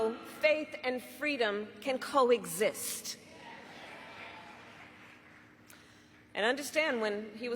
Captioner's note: cheers and applause